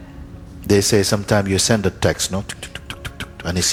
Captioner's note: typing sound